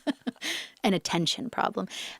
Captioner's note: interviewer laughs